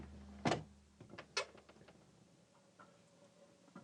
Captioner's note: door clattering